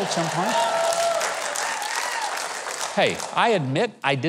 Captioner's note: audience cheers